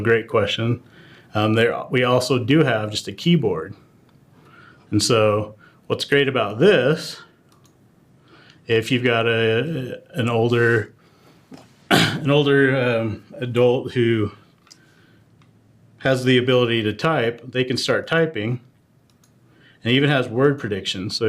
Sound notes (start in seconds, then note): 11.8 cough